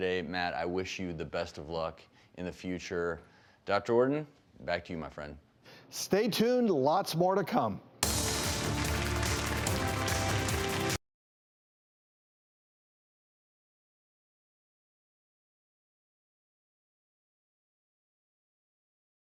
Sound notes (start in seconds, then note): 8.0 dramatic music; 8.0 applause